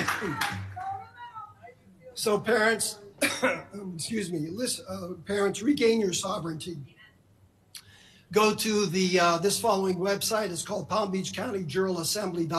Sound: applause

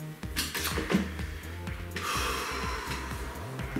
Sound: breathes out

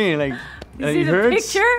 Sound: thumps chest

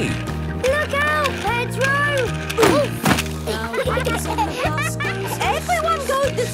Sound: laughter

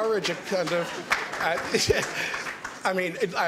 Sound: applause

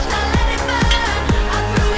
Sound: clink

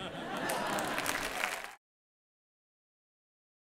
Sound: crowd laughing

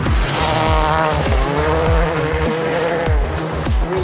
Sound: engine revs

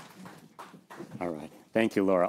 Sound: applause

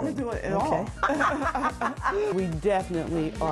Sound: laughter

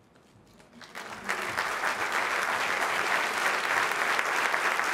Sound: applause

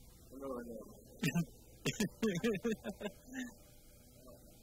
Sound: laughs

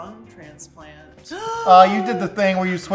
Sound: gasps

